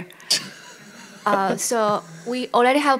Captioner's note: laughter